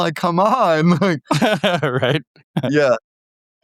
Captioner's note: laughing